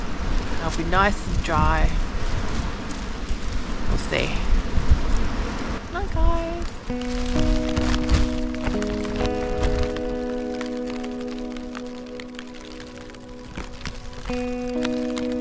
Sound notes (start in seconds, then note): 7.5 light rain